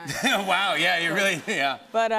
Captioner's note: laughter